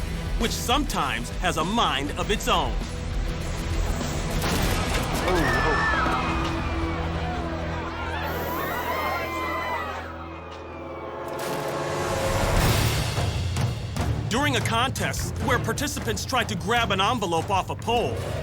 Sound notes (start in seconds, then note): 5.2 people screaming